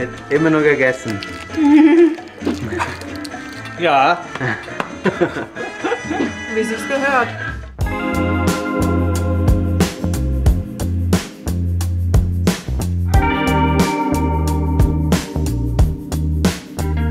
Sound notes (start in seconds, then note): 4.2 laughs